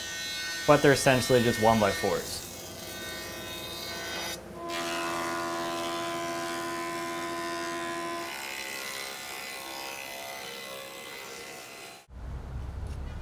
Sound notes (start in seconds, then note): 2.9 machine buzzing; 5.0 machine humming; 8.0 saw buzzing